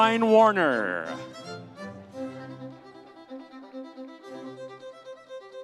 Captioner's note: audience cheering